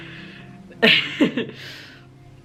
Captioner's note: laughs